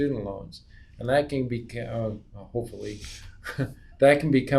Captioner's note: chuckles